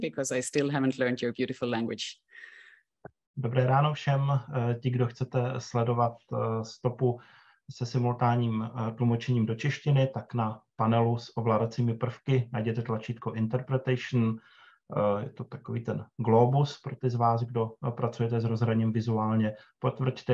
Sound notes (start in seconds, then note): 7.5 speaking Czech